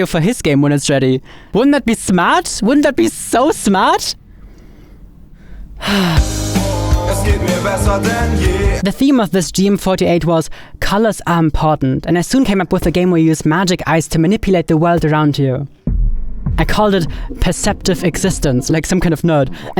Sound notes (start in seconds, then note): 5.4 sighs; 6.2 lively music